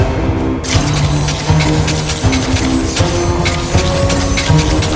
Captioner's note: sword clinking